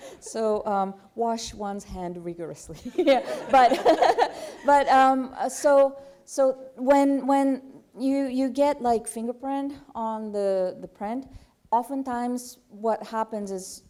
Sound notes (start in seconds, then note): 2.8 laughter